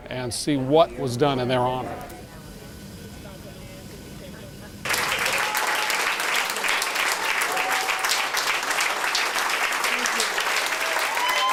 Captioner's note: applause